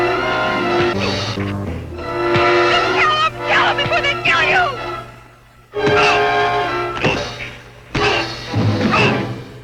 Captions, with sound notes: (dramatic music) Just tell 'em, tell 'em before they kill you. (hand hitting) - Oh, oh.